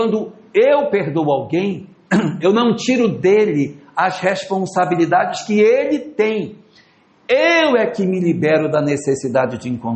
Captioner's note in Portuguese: limpando a garganta